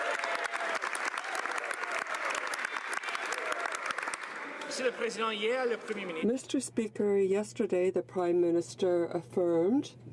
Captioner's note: some Applause